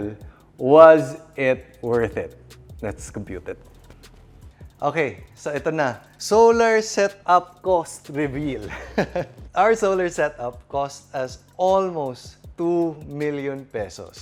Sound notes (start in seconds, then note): 8.5 chuckles